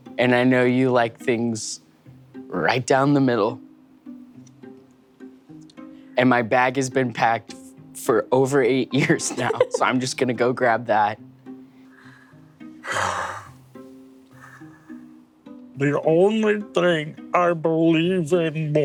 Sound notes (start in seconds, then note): 12.8 sighs; 14.3 gentle music continues